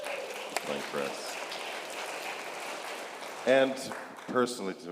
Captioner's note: congregation applauding